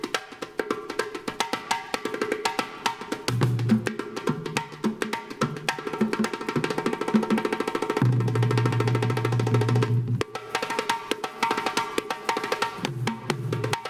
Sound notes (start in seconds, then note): none